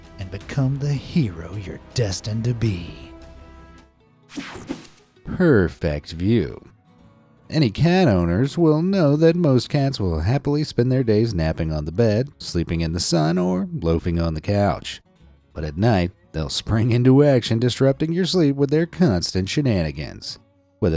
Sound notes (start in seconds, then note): 3.7 soft music; 4.4 air whooshing